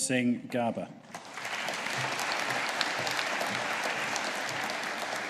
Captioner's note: audience applauding